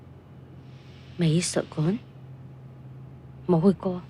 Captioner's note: Cantonese